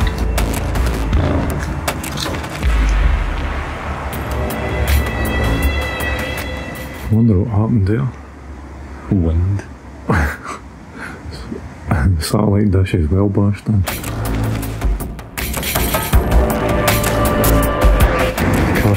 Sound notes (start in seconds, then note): 10.1 laughter